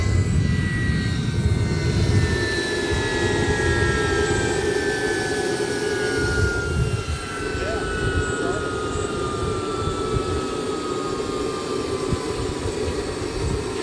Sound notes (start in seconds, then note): 2.9 sound of engines shutting down